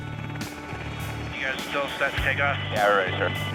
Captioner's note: man Over Radio; person Over Radio